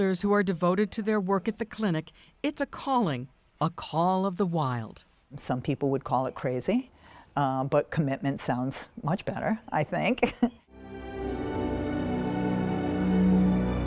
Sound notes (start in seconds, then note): 10.1 laughs; 10.6 gentle music